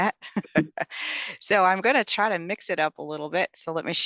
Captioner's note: laugh